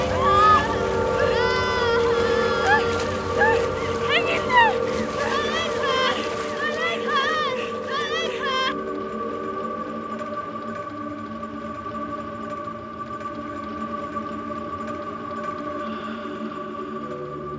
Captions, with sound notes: My leg hurts! My leg hurts! (crying) - Hang in there. - My leg hurts, my leg hurts! My leg hurts! (ominous music)